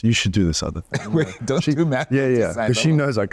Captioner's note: laughing